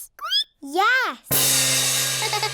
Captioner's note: squeaks; giggles